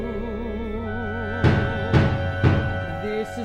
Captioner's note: pounding on door